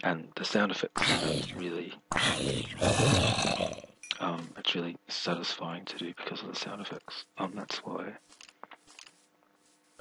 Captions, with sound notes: And the sound effects really [zombie groans] Um, it's really satisfying to do because of the sound effects. Um, that's why